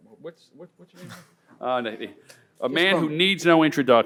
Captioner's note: laughs